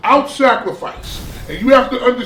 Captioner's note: crashing noise